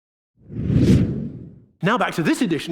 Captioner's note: air swooshing